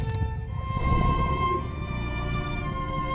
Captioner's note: monstrous groaning